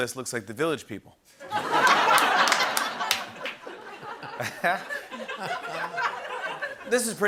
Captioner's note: laughter